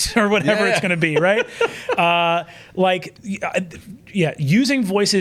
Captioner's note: laughs